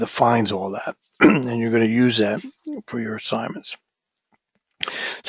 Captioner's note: cough